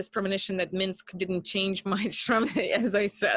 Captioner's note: chuckles